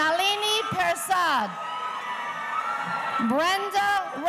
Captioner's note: audience cheering